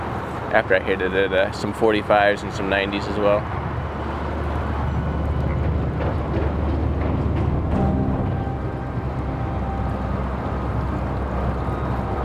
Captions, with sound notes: after I hit some 45s and some 90s as well. (bridge rattling) (suspenseful synth music)